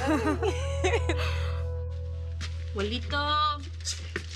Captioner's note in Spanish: Risas